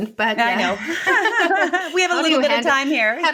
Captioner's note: laughing